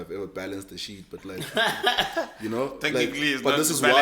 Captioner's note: laughs